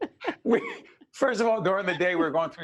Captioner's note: both laughing